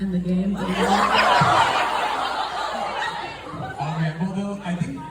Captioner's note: audience is loud and confused